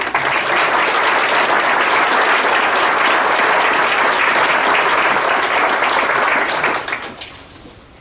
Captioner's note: crowd applauding